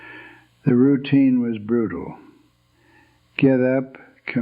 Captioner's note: sighs